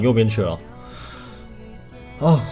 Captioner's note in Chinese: 深呼吸